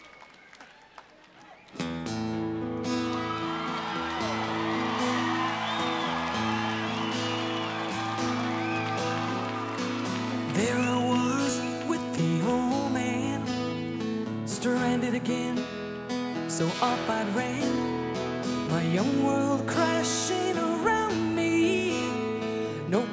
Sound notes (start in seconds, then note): 1.6 gentle pop music; 2.5 audience cheers